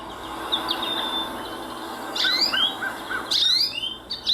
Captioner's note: goldfinch chirping